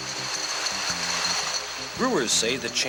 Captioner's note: bottles rattle